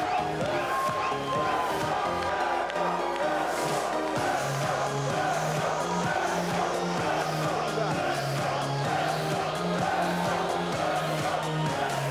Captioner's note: cheers and applause